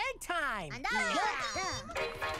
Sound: cheering; upbeat music

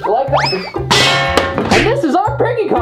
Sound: clang as bat hits floor

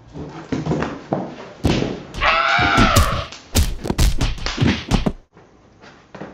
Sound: screams punches and lands

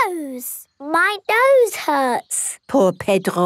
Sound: nasal voice

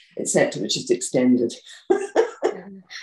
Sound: laughs

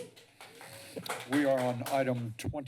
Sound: applause

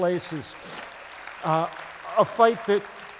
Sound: applause

